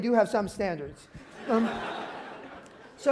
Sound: laughter

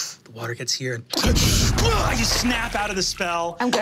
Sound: shouts

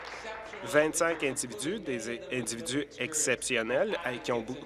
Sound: applause

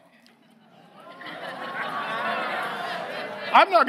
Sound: audience laughs

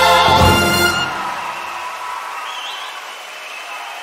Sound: applause

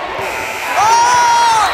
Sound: buzzer sounding; shouting

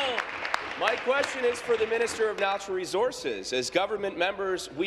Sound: applause

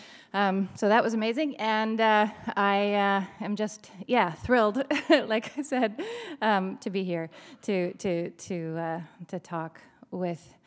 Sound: chuckle

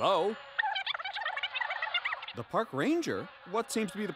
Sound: buzzing noise

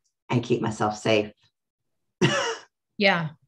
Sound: laughs

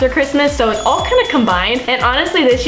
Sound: bell chimes

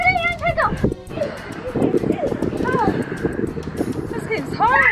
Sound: laughing

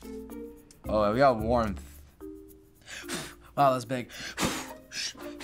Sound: blows

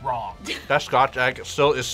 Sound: laughs

